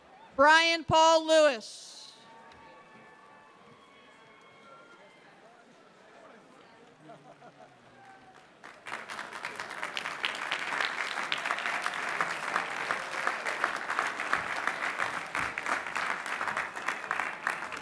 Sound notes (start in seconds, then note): 3.6 applause